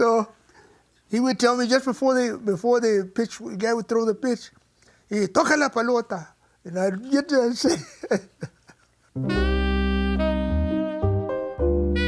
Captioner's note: laughs